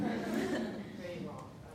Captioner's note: audience laughing